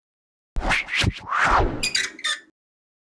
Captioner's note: whooshing